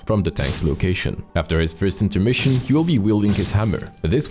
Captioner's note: reverberating Hammer